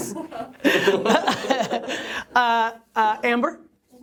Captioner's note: laughter